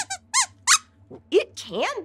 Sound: squeaks squeaks

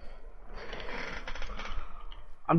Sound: chair Creaks

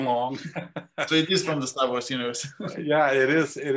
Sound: laugh

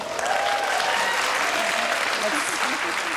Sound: audience applause

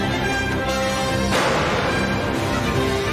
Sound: gunfire

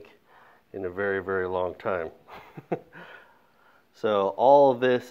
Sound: laughs

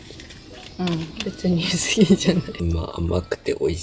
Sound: laughs

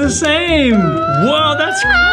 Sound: boys squealing

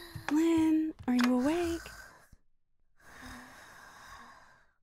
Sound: slow breaths

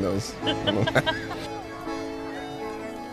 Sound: laughs

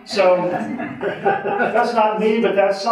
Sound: audience laughing

